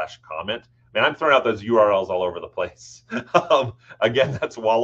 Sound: laughs

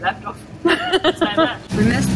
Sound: laughs

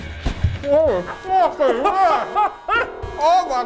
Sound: laughing

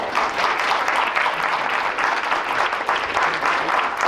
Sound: applause

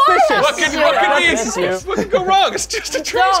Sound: commotion

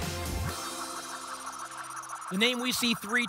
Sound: spinning sounds

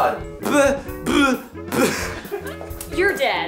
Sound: laughing

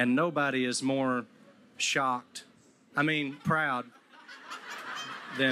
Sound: crowd laughing

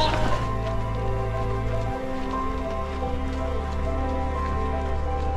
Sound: footsteps crunching

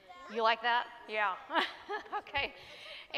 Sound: laughs

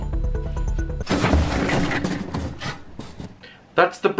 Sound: crash!

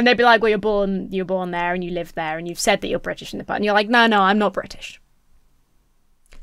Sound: none

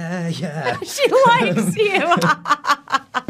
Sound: laughing; Daniel laughing

